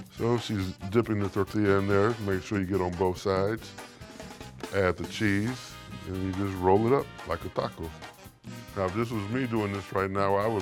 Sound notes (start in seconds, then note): none